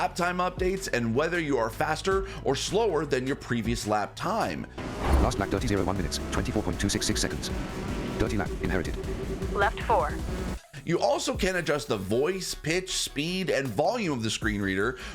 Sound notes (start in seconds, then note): 5.9 talking fast